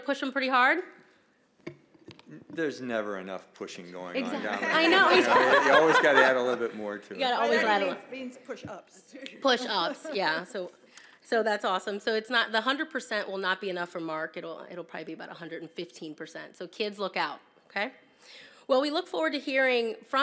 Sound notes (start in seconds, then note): 7.1 laughter